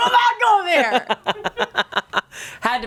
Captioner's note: everyone laughs